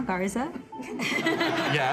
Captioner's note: laughter